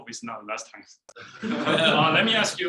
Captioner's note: people laughing